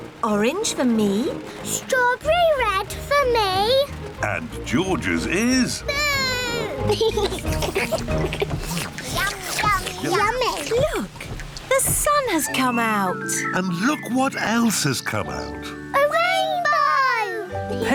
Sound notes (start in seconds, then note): 7.1 all slurp